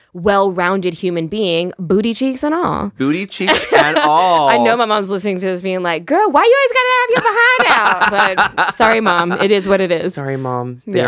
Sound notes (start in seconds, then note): 3.4 Monique laughs; 7.1 laughs